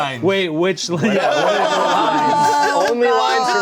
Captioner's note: everyone laughing